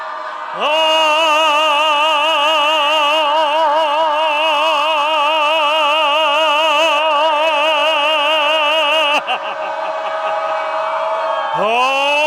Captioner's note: starts yelling tones; and audience continue screaming for about 45 seconds